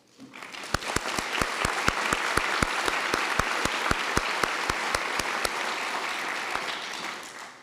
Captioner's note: applause